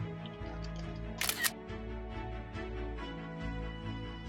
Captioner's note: camera shutter sound